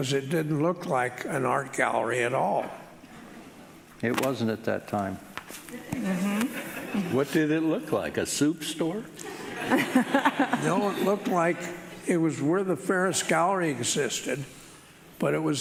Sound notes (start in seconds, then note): 9.6 laughing